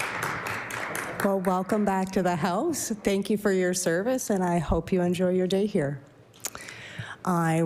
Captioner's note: applause